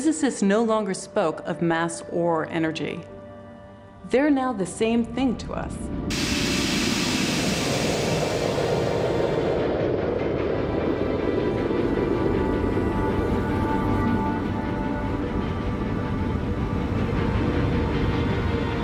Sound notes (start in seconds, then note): 6.1 <i> steam hissing</i>